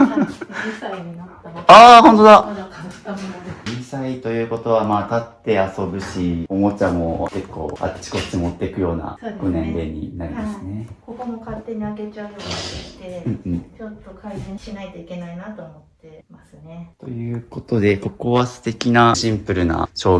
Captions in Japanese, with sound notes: [笑い]2 歳になった。あ、本当だ。 まだ変ったもので2 歳ということはま、立って遊ぶしおもちゃも結構あっちこっち持ってくような年齢になりますね。 そう。はい。ここも勝手に開けちゃうようになってきて [鼻息] ちょっと改善しないといけないなと思ってますね。 ということで、ここは素敵なシンプルな照明があったり、あとね、猫ちゃんがいるということで、ま、餌だったりお水だったりとか、ここにはモバイルバッテリーが家族人数分あんのかな。じゃ、外と引き出しの中も見てよろしいでしょうか?